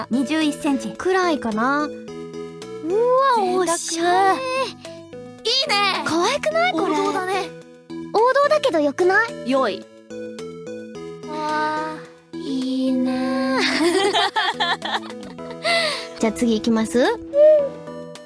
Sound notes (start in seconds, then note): 13.6 laughter